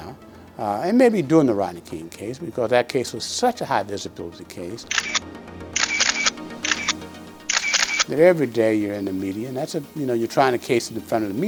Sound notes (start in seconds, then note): 4.1 soft dramatic music; 4.8 cameras clicking